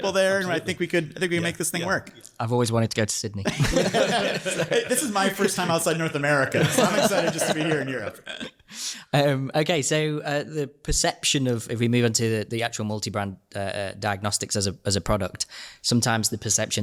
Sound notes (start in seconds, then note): 3.4 laughs; 3.4 hosts laugh